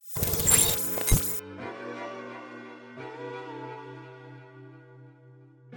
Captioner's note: metallic bleeps; upbeat music